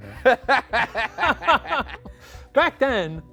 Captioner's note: laugh